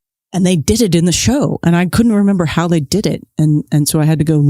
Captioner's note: none